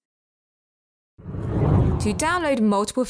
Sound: air whooshes

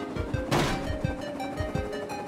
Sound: metal crashing

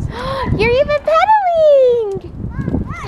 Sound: gasps

